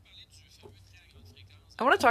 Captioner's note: speaking French